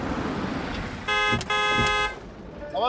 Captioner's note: car honking